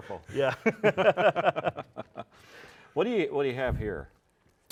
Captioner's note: laughing